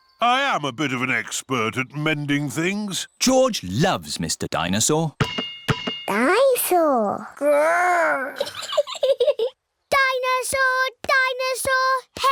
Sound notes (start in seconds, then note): 8.3 giggles